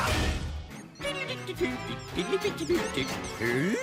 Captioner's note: humming